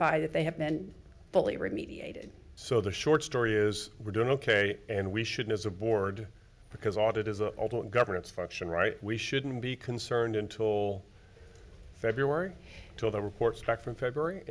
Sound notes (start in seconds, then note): none